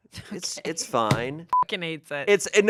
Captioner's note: beep